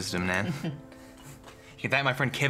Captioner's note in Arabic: تضحك